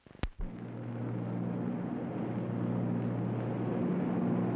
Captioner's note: engine droning